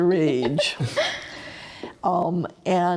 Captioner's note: chuckles